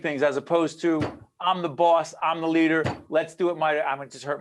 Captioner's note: hitting table